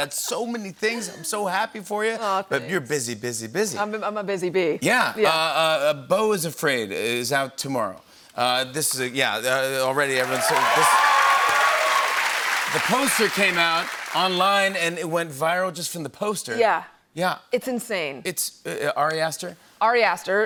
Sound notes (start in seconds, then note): 10.0 cheers and applause